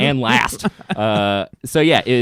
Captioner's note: laughing